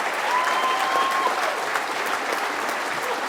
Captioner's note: applause